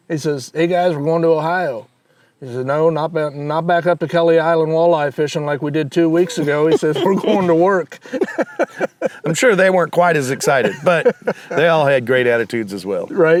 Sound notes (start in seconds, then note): 6.2 laughs; 6.2 laughing